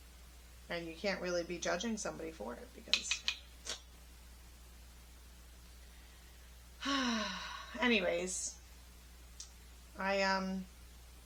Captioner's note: sigh